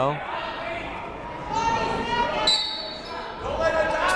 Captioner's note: people shouting in the crowd; whistle tweeting